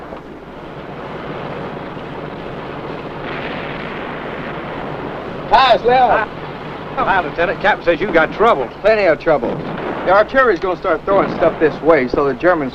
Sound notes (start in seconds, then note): 1.0 gun fires